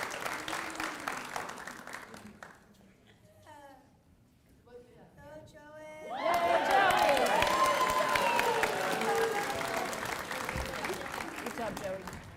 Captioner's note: applause